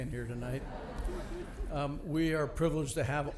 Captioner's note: audience laughing